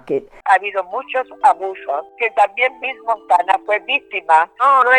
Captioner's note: speaking Spanish